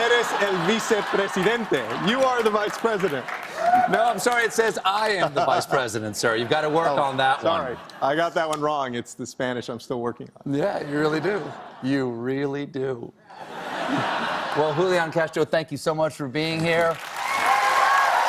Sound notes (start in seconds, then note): 13.3 laughter